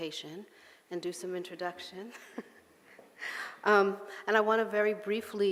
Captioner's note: laughing